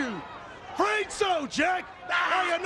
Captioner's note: Sid laughs